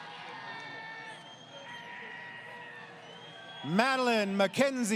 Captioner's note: crowd Cheering